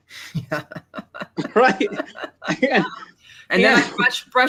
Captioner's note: laughs